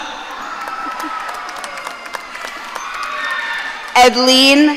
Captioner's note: audience cheering